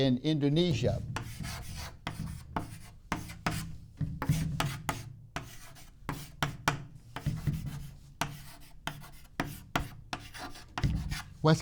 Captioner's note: chalk scrapes on board